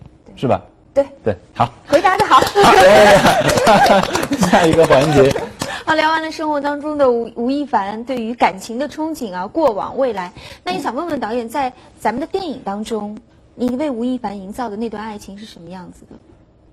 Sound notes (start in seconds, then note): 2.0 clapping his hands !; 2.0 clapping her hands !